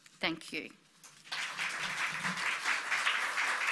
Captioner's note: applause